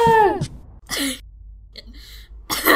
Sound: coughing

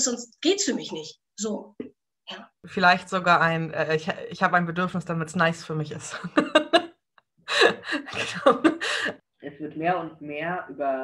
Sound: laughs

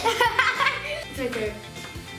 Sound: laughing

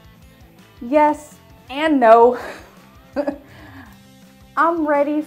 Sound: chuckles

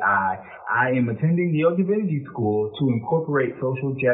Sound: speaks faintly

